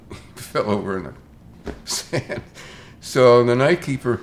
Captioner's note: chuckles